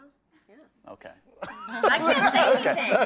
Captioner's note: group laughs